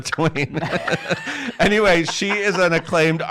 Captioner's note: laughs